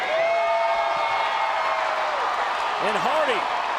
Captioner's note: audience cheering